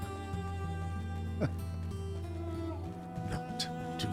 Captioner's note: laughs